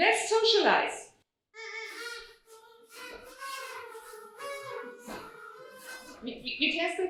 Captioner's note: audience toots